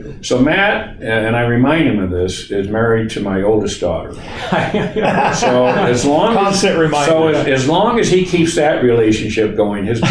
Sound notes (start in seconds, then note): 4.2 laugh